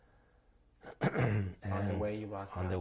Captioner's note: clears throat